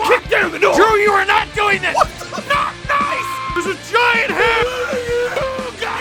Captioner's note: screaming; Harry potter screaming